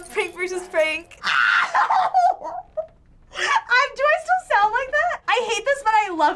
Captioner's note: laughing